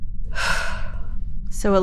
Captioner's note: sighing